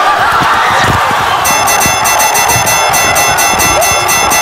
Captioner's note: boxing bell rings